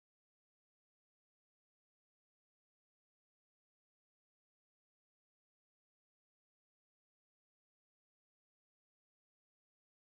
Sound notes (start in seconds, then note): none